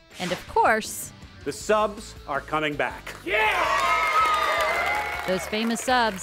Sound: crowd applause

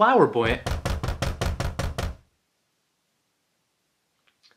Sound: door knocks

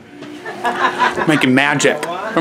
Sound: people laughing

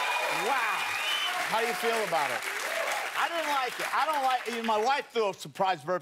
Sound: cheers and applause

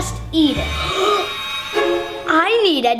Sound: triumphant music; gasping

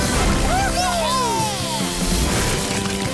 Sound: cheering

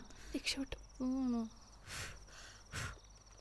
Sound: sighs; blows candles

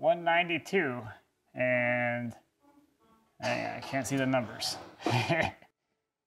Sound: laughs

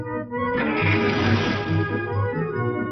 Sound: engine sputters

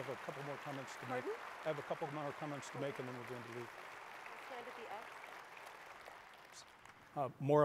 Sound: applause

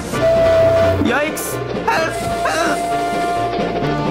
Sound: whistles

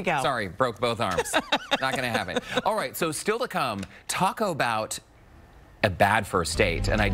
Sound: laughter

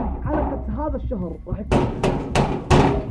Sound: loud knocking

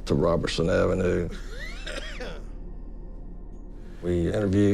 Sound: coughing

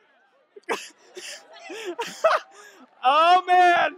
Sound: laughing

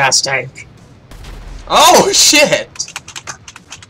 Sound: explosion

